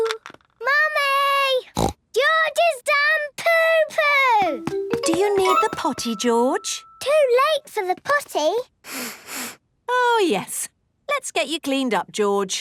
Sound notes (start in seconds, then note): 1.7 snorts; 8.8 sniffs